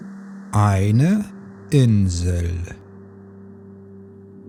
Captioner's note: german